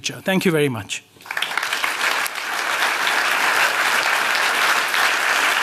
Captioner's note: applause